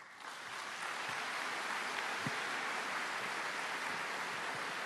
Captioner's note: applause